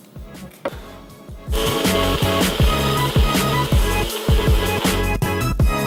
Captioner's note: blender whirs; upbeat music